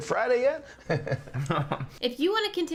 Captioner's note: both chuckle